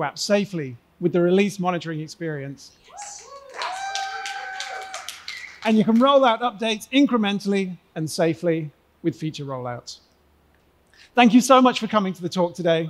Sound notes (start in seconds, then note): 2.9 cheering; 2.9 applause